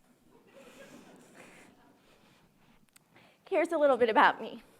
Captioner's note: audience laughing